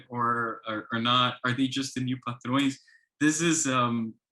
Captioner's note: speaks foreign language